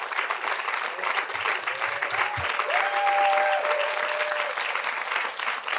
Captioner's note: audience continue applauding